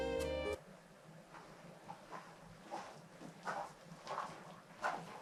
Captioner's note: footsteps shuffle